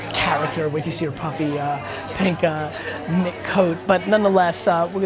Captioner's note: laughs